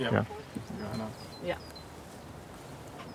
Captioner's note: lively conversation